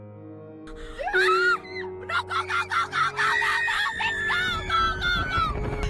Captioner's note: screaming